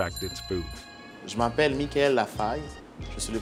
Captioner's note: speaking french